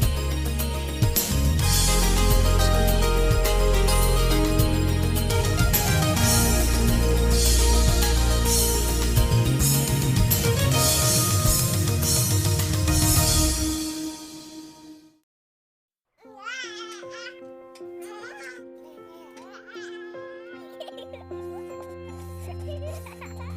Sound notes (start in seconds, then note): 16.2 baby crying; 18.9 child giggling